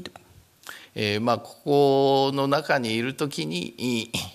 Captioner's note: speaking japanese